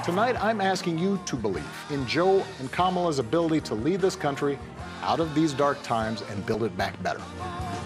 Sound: cheering and applauding

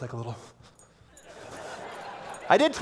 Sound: laughter

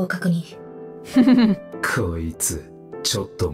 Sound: chuckles

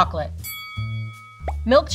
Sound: bell dings

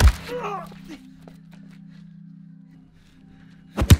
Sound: Loeb grunts in pain

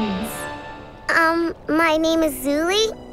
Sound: none

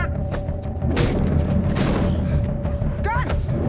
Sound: beeps; body crashes; head thuds

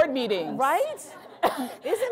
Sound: laughing

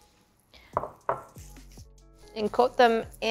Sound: bowl clunking on counter

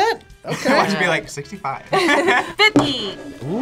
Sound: both laugh

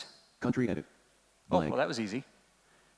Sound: computer Voice

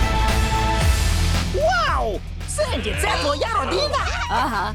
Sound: squirrels chattering

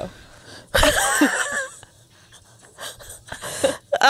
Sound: panel laughing

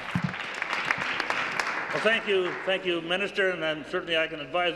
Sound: applause

